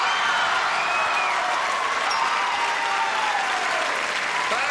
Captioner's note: applause